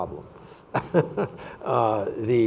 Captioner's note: laughing